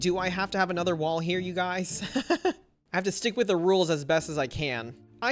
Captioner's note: laughs